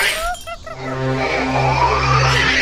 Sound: angry snarling

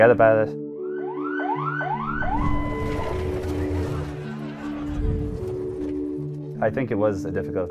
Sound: ambulance sirens and medical equipment beeps

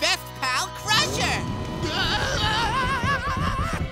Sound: screaming

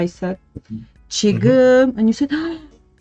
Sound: Korean

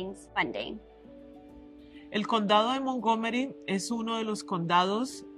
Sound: en espanol

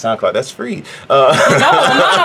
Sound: laughing

